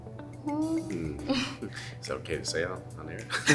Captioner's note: laughs